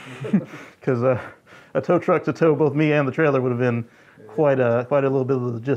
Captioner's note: laughter